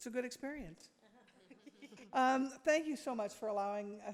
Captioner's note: board members laugh